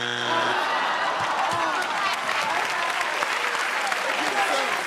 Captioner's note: applause